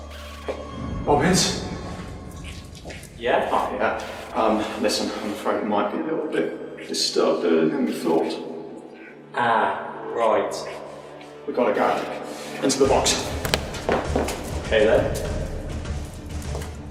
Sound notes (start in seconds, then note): 13.4 phone cable unplugs